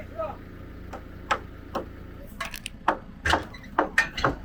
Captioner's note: hammers